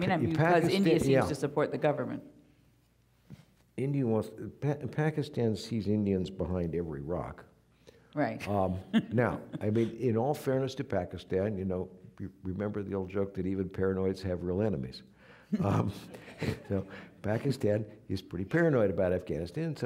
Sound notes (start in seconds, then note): 8.5 chuckling; 15.6 audience laughing